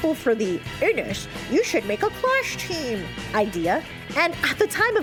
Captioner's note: In Fridge's voice